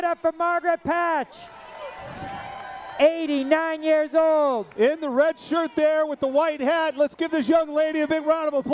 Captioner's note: cheering